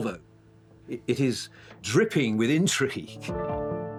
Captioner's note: chuckles